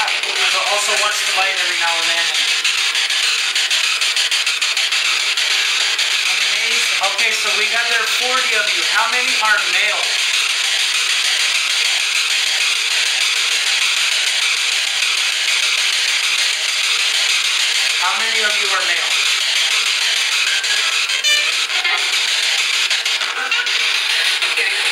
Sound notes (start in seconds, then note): 9.8 loud static noise